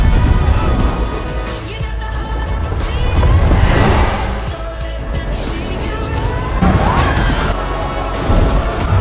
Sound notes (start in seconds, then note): 3.2 roaring